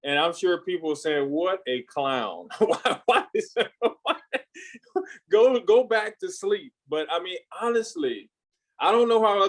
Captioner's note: laughs